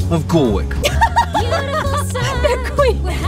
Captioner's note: laughs